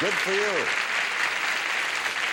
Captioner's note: audience applauds